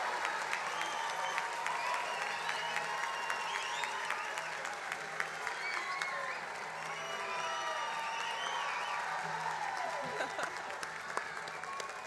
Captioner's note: applause; cheers and applause